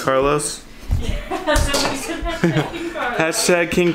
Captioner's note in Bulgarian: смее се